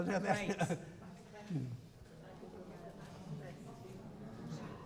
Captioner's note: audience chattering